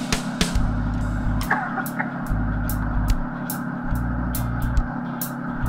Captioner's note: coffs